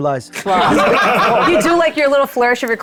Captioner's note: laughing